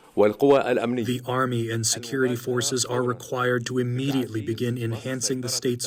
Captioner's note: through translator